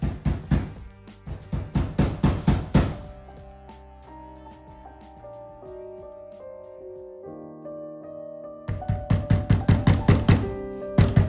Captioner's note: loud pounding at the door